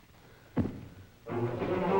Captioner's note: foot thuds; dramatic orchestral music